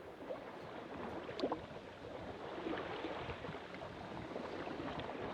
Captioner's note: calm water splashing